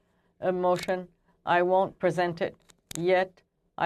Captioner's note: speaking French